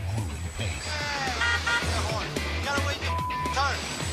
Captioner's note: car horn honks